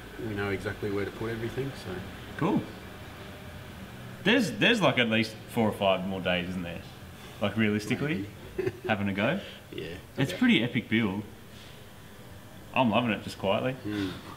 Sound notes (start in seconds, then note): 8.4 laughs